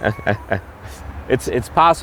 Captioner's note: chuckling